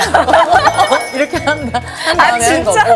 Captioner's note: haha